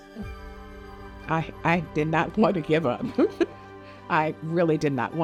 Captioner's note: laughing